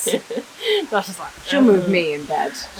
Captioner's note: laughter